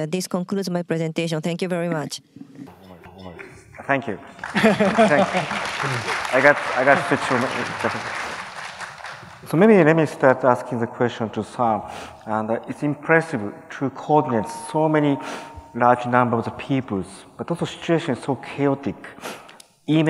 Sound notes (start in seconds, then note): 4.2 applause